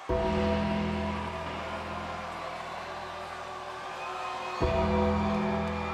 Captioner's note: suspenseful music; lightning rumbling